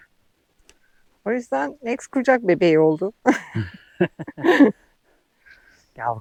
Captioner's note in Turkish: kahkaha